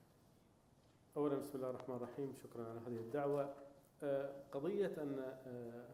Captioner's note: speaking in foreign language